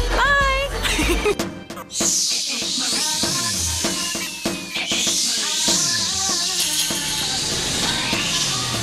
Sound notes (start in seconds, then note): 0.8 laughing